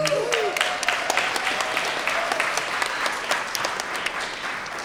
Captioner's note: everyone applauding